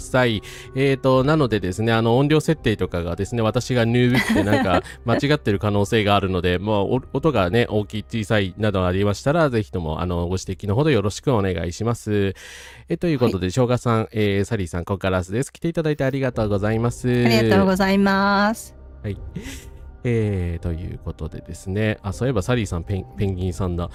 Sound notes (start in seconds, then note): 4.1 laughter